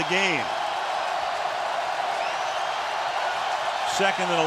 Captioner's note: cheering